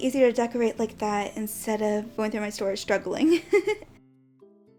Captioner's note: giggles